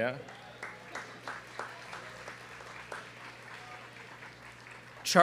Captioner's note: student clapping